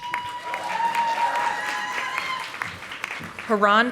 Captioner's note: audience applauding